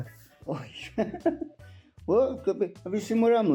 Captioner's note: laughs